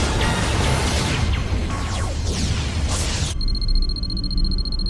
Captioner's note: battle noise gets quieter; computer beeping